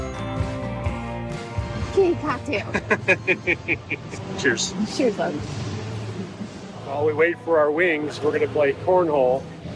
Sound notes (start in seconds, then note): 2.7 laughing